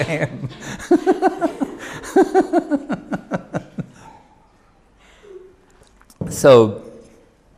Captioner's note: laughs